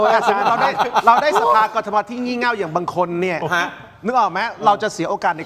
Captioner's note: laughter